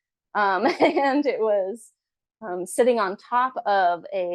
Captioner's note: chuckles